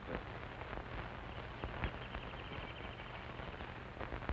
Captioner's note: birds chirping